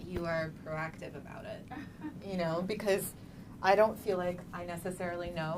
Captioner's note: laughing